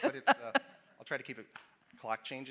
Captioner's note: laughing